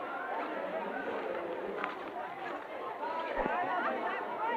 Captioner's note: students talking